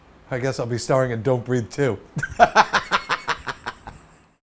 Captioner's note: laughs